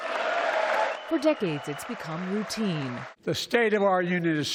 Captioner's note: cheering